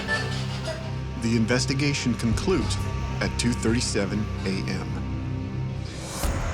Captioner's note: voiceover